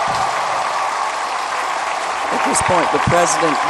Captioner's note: applause